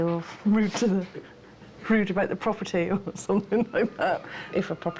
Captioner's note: laughing